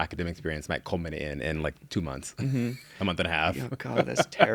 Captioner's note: laughs